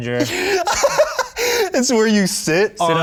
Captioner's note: laughing